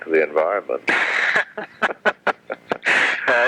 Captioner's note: laughs